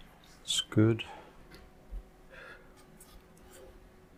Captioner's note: silence